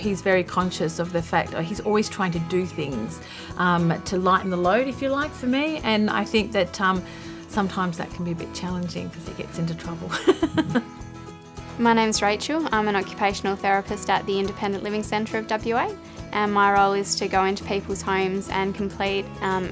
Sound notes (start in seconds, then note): 10.1 laughs